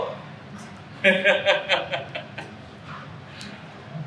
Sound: laughs

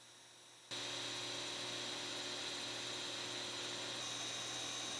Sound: pantograph whirring

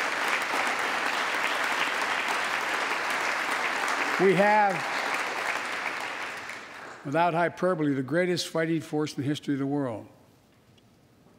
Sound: applause

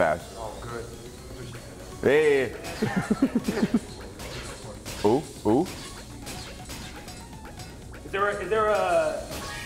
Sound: laugh

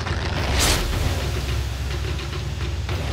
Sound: hissing

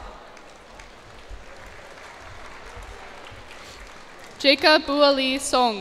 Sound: cheers and applause

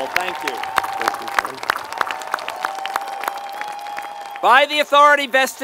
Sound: applause

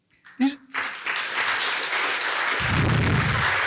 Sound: applause

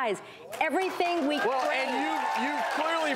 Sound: crowd cheering

